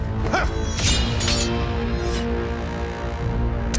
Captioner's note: dramatic music; swords clanking; dramatic music